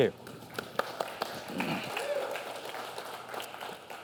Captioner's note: applause